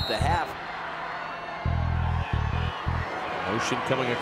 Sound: crowd noise

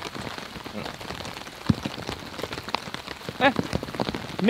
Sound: rain pouring

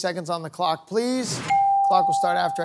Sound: bell dings

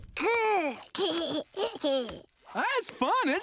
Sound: giggling

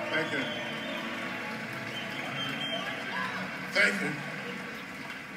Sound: applause

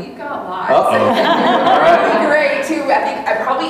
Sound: audience laughing

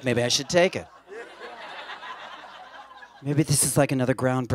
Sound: laughter

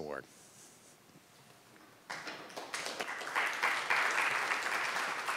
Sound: applause

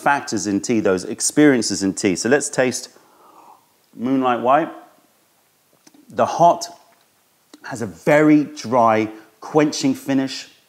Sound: sips tea

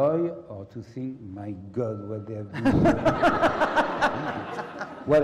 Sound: laugh

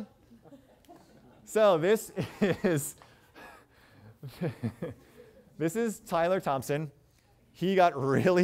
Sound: chuckles

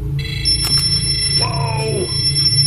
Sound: device alerting

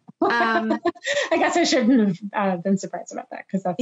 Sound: laughs

